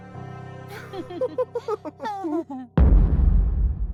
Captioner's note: ominous music; Silver Spoon and Candle laugh; boom